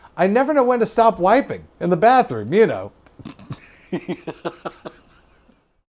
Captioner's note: chuckles